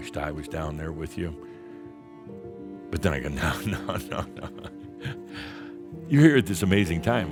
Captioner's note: chuckling